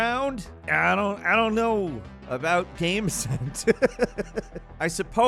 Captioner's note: laughs